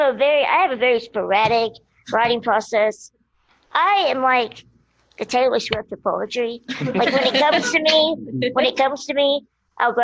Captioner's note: laughter